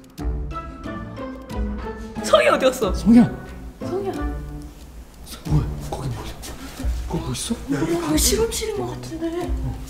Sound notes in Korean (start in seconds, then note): 6.8 속삭이는 소리